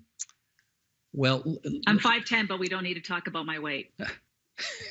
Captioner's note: laughing